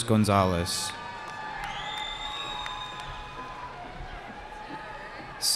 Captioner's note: cheering